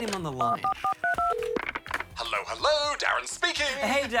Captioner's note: phone dials